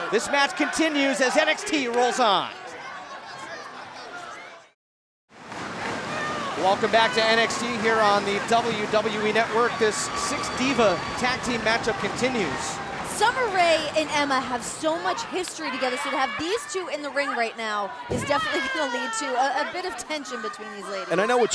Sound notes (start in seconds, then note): 5.6 crowd clapping